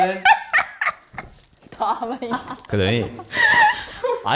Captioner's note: still cracking up